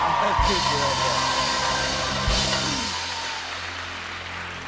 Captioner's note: cheers and applause